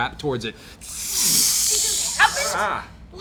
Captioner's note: hissing